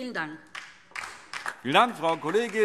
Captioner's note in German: Beifall DIE LINKE